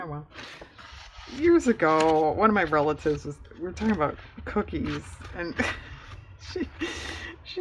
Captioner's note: laughs